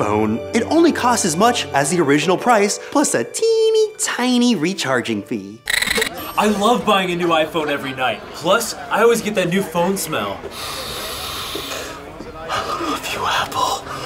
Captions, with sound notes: It only costs as much as the original price, plus a teeny-tiny recharging fee. I love buying a new iPhone every night. Plus, I always get that new phone smell. (sniff) (whispering) I love you Apple.